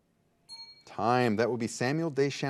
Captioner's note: bell dings